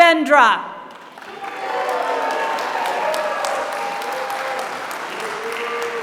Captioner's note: applause